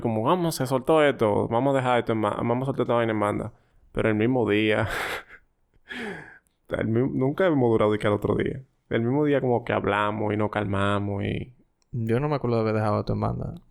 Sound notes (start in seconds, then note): 6.0 laughs